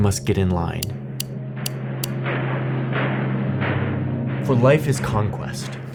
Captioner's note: tense uneasy music; footsteps marching